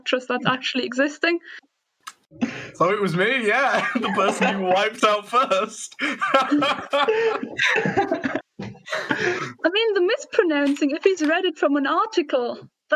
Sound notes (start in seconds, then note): 5.8 laughs; 5.9 laughter